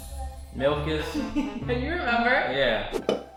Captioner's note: chuckles